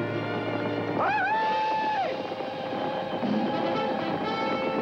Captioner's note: whooping